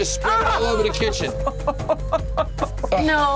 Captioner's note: laughs